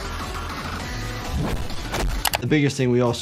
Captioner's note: air whooshing; body thudding